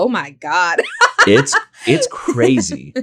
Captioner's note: laughs